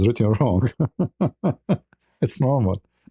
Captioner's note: ketawa